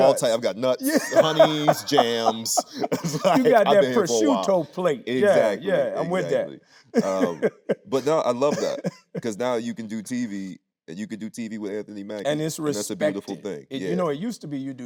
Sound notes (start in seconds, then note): 0.8 Anthony laughing; 6.9 laughing